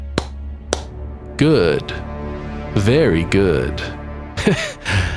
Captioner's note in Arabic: تصفيق تصفيق تصفيق